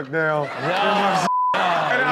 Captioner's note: beep; audience laughs